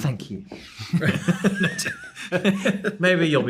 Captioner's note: both laughing